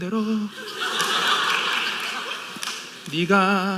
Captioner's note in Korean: 웃음